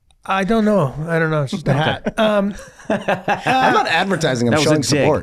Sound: Rob and Glen chuckle

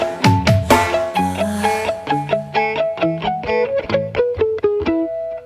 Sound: ahh

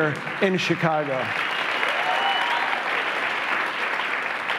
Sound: cheers and applause

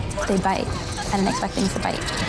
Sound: contestants laughing

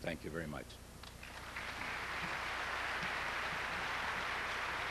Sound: audience applauds

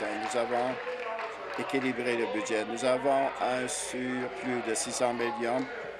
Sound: applause

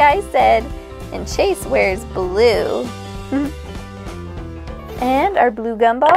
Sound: giggles

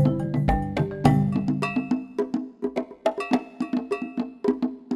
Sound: bell clanging

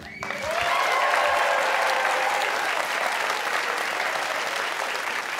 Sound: cheers and applause

